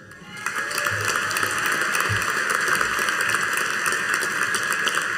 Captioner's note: audience applauding